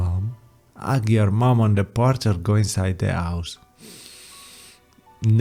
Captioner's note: sniff